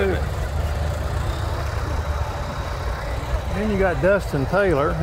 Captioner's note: revving continues